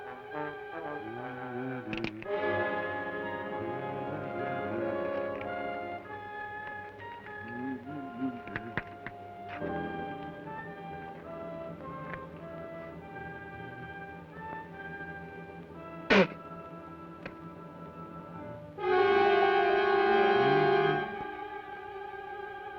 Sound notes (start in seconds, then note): 1.3 gun cocks; 1.3 hums melodically; 16.0 spits; 18.9 ominous orchestral music